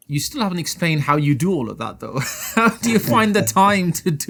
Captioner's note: laughs